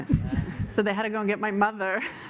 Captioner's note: laughter